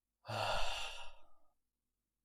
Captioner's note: sighs